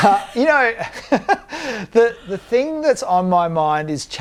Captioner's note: laughing